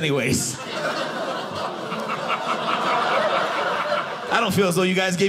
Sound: audience laughing

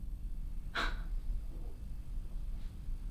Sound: Savannah scoffs

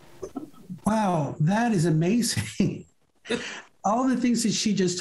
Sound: chuckles

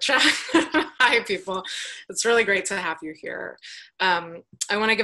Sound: laughs

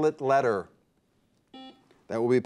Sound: buzzer beeps

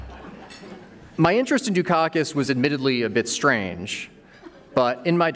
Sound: laughter

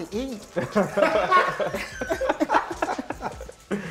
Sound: laughter

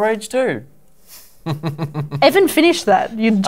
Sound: chuckles

